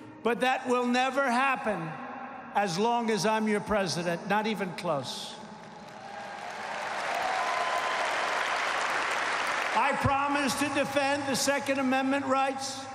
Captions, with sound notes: But that will never happen as long as I’m your President. Not even close. (applause) I promise to defend the Second Amendment rights